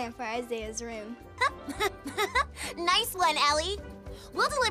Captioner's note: giggling